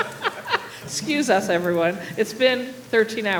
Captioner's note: laughter